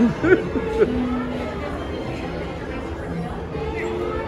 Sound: laughing

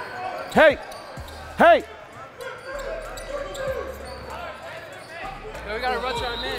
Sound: overlapping chattering

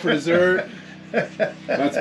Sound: laughing

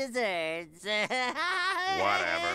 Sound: laughing

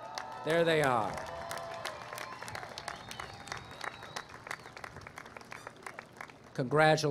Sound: applause

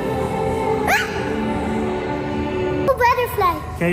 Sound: screams

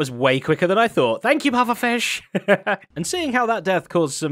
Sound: chuckles

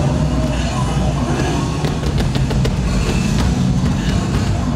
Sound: thumping

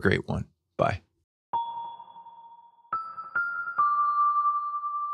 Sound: bells chiming

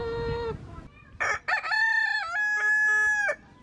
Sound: rooster crows

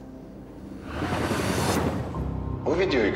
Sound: transition sound

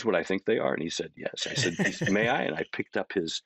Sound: chuckling

